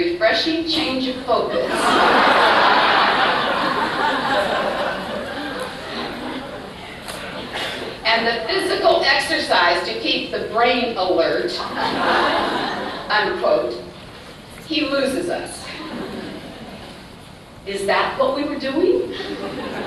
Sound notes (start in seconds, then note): 1.7 loud laughter; 15.3 laughter; 19.1 laughter